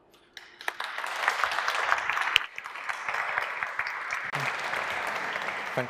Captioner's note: applause